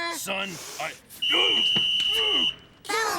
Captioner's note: whistle blows